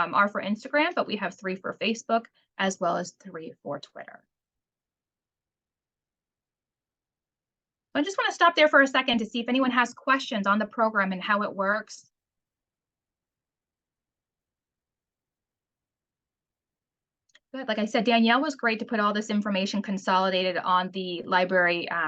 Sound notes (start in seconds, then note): 12.1 silence